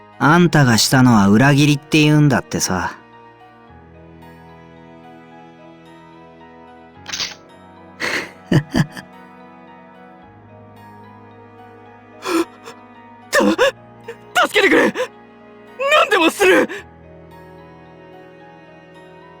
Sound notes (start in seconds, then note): 8.0 chuckle